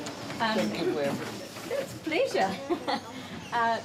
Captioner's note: chuckles